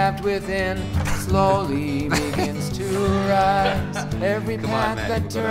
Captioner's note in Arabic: يضحك